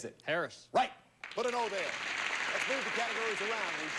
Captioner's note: audience applauding